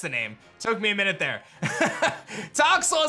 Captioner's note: laughs